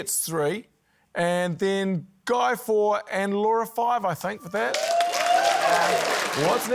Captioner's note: cheering, applause